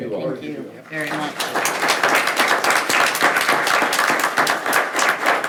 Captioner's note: attendees applauding